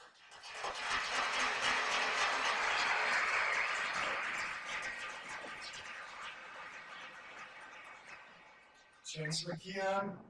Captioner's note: applause